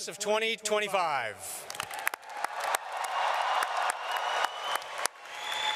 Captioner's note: audience cheering and clapping